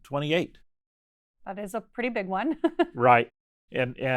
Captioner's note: chuckles